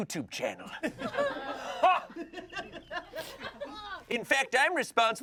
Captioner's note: everyone laughs